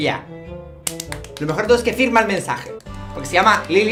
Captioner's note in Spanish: Aplausos